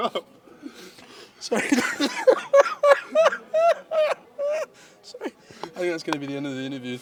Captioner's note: uncontrollable laughter